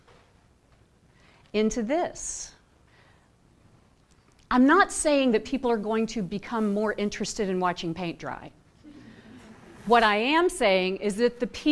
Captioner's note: laughter